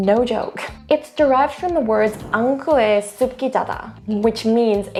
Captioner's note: speaking in foreign language